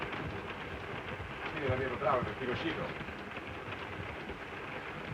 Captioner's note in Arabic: صوت خشخشة القطار; هارتز يتحدث لغة أجنبية; صوت خشخشة القطار